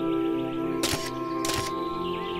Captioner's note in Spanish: Pasos animatrónicos